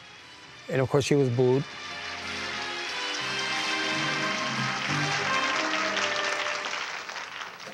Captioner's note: dramatic music; audience applauding